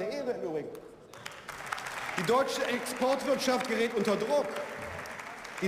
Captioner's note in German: Beifall